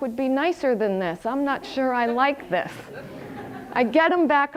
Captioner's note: audience laughter